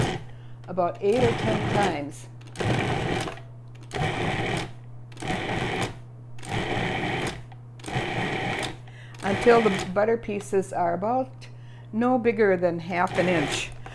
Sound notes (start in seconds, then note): 3.2 food processor pulsing